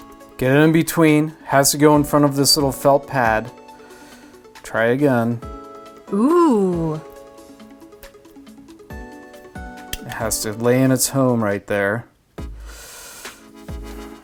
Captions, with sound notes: Get it in between and it has to go in front of this little felt pad, try again (female voice: ohhh). It has to lay in its home right there.